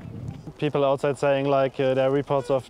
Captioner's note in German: englisch